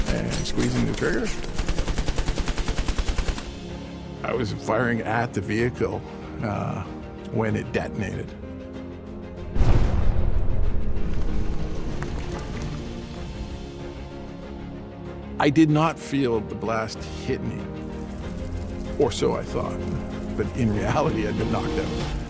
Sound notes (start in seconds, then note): 2.4 gun blasts; 9.5 explosion blasts; 10.0 dramatic music